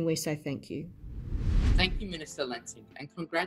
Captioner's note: air whooshing